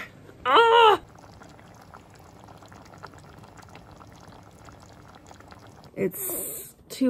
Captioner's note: boiling pan